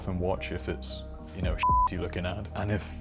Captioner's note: beep